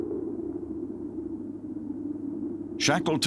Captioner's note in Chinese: 風聲